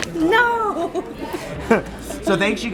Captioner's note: laughing